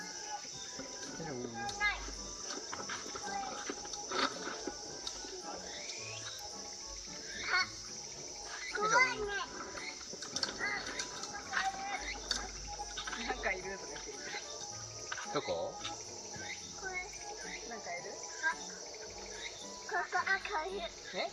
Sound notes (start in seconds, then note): 13.8 laugh